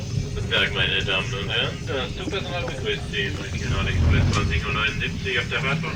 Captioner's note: train conductor speaking in foreign language